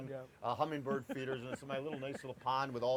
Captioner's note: laughing